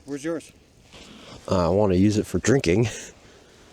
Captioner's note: chuckles